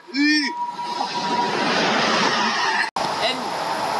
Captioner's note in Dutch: train passing